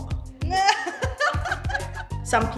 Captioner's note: laughing